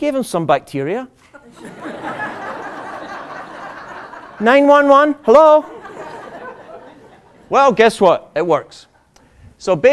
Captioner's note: laughter